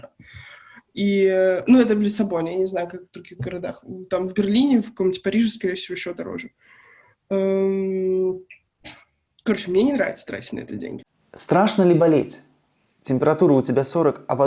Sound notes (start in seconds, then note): none